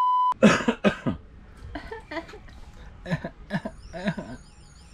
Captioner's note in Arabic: سعال